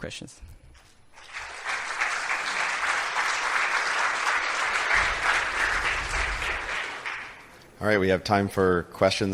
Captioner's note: applause